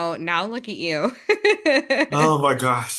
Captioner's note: laughs